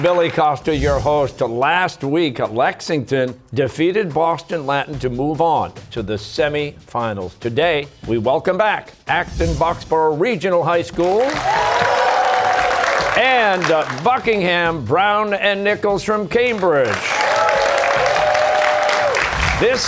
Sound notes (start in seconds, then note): 11.0 cheers and applause; 16.8 cheers and applause